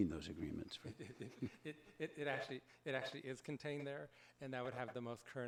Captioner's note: laughs